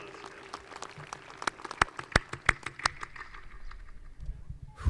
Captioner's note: audience applauding